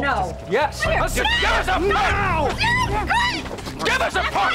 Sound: sounds of a struggle

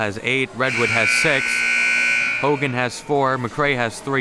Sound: siren buzzing

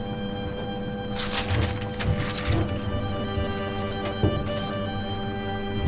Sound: solemn music; metal screen rustles

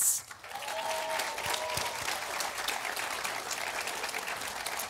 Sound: audience applauding

